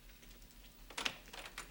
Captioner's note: doorknob rattling